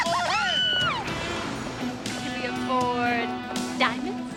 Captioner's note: Jill screams; soft music